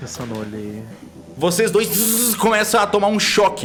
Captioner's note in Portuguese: bzz